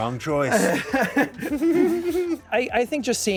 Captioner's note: laughs